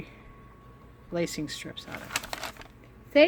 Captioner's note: more crinkling